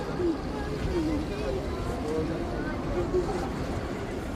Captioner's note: indistinct chatter